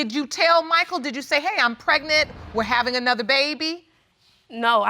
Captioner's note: none